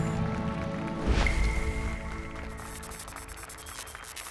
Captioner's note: applause and cheers